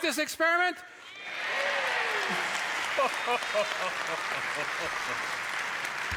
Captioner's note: cheers and applause